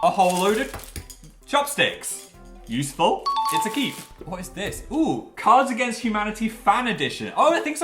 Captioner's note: ding